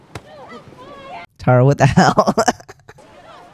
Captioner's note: laugh